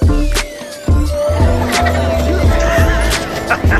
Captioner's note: children laughing; laughs